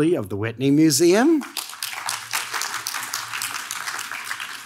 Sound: audience claps

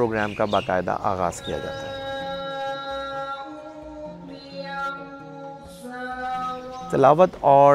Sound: qur'anic recitation

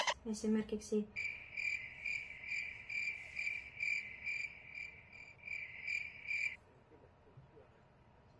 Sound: sounds of nature

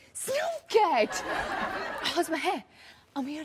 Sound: audience laughs

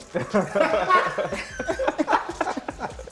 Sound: laughter

